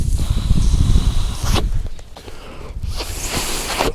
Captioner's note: breath